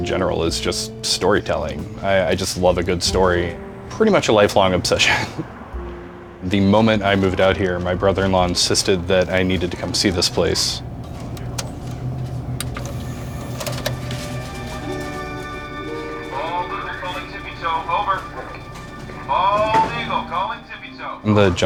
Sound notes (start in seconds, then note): 11.0 DVD machine whirring; 14.9 mysterious music